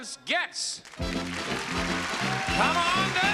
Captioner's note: audience applause